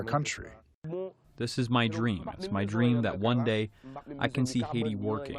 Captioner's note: through translator